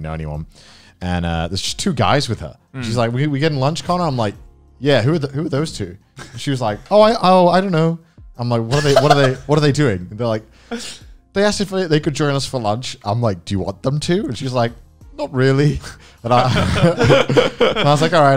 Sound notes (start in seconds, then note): 8.7 man laughing; 16.4 laughs